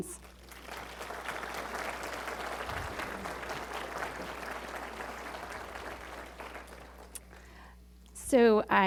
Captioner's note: applause